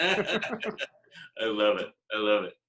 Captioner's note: laughing